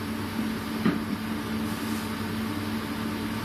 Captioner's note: thump